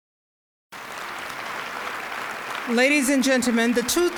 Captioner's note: applause